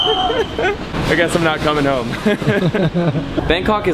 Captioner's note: laughing and swearing under his breath; laughs